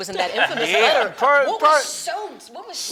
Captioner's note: laughs